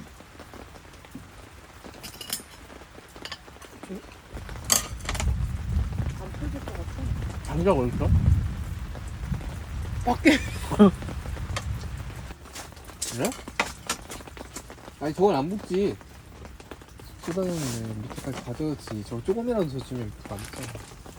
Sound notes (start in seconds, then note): 10.1 laughing